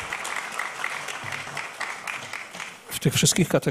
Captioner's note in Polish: oklaski